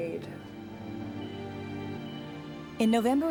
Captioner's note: heart monitor beeping